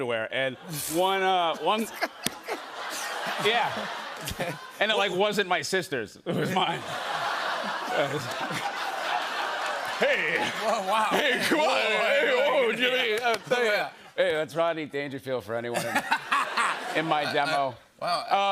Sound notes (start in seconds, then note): 1.2 laughs; 6.3 laughter